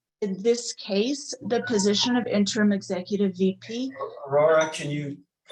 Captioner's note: timer rings